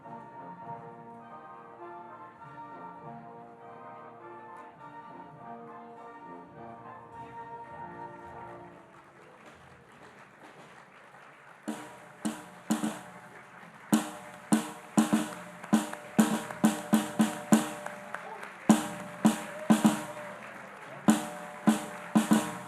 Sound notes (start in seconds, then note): 8.5 audience applauding; 11.8 rhythmic percussion music; 18.8 rhythmic percussion music